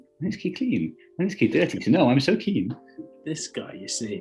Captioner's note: raps